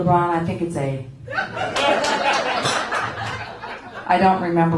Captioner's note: laughter